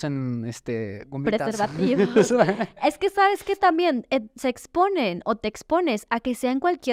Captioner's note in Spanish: risas